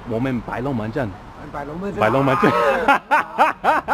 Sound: szechuan dialect

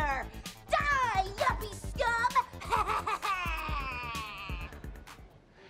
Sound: laughs maniacally

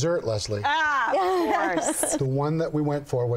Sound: laughs

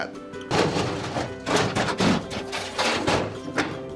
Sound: metal clanking

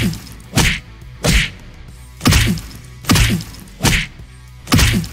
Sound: punching continues

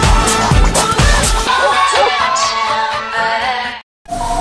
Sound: dog barking

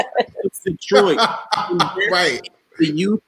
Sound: laughing

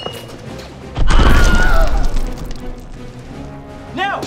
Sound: Wilhelm scream

